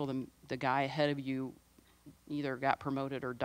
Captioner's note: none